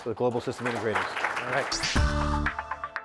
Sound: audience applauds; upbeat music

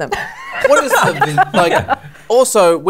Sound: laughter

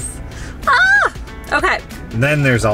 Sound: screaming

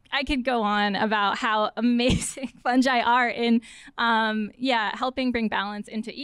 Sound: laughter

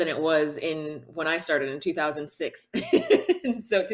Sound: laughs

